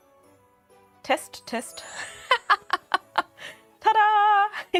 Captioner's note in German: Gelächter